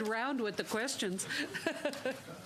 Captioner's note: laughter